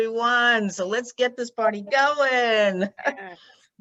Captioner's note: chuckles